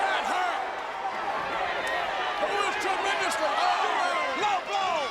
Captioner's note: applause